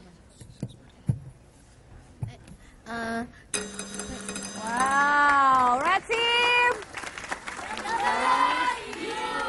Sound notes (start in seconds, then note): 3.5 bell